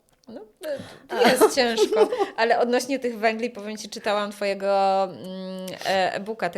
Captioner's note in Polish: śmiech